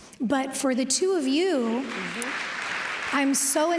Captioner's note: applause